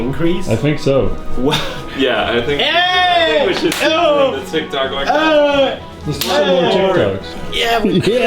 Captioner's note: incomprehensible celebration